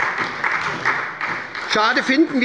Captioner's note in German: Beifall bei der SPD